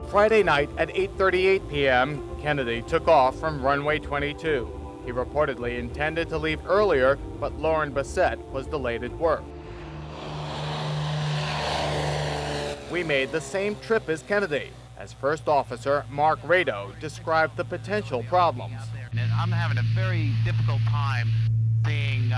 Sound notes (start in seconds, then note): 9.8 plane whirs